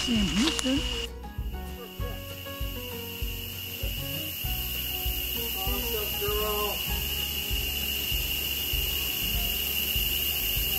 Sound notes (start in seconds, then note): 2.3 cicadas buzzing